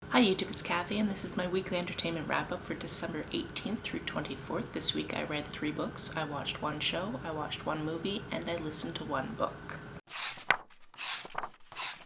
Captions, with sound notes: Hi YouTube, it’s Kathy, and this is my Weekly Entertainment Wrap Up for December 18th - 24th. This week I read 3 books, I watched 1 show, I watched 1 movie, and I listened to 1 book. [page turning]